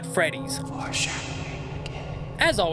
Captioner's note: mysterious voice